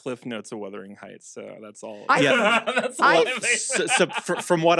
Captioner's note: laughs